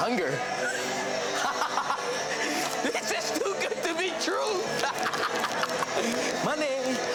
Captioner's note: laughs